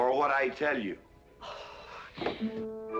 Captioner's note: seething